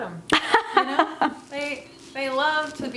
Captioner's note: laughing